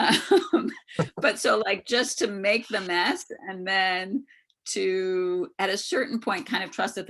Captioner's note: laughs